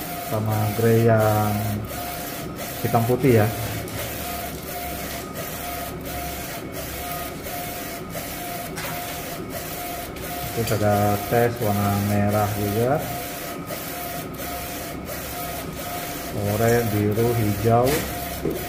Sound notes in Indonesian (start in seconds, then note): 0.1 suara mesin printer